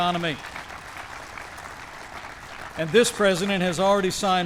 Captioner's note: applause